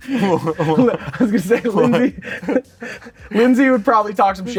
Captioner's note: both laughing